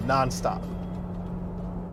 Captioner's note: car engine roars